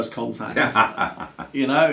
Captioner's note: laughs